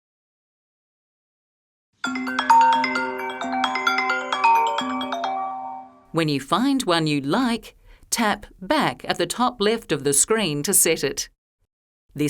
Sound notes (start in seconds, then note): 2.0 ringtone chiming